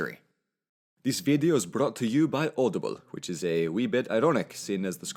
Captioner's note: in Scottish accent